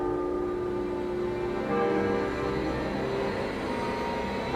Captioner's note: bells tolling